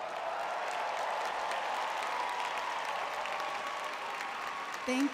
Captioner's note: audience cheering